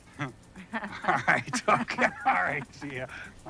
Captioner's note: all giggling; Joanne giggling